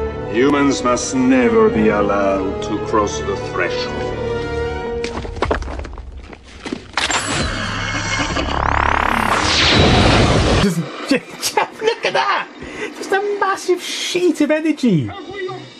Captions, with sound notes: Humans must never be allowed to cross the threshold. [Excessive rock crumbling sounds] [clunking of weapon] [Massive 'fart like' weapon projectile sound] Jus.. Just... Look at that, just a massive sheet of energy.